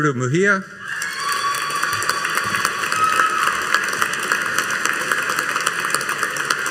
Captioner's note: audience cheering and applauding